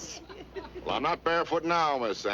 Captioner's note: laughing